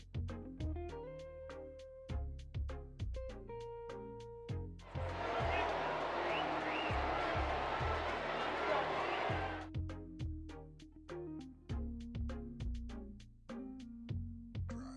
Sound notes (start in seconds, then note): 4.8 cheers